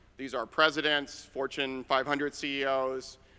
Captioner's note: none